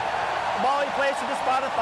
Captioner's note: cheering